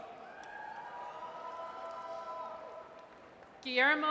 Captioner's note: audience cheers